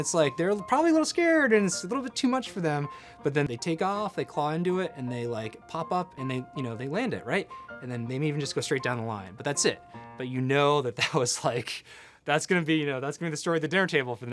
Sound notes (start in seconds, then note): 11.8 laughs